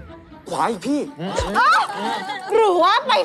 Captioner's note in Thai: เสียงร้อง